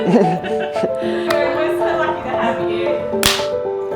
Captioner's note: laughter